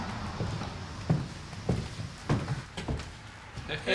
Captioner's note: footsteps clop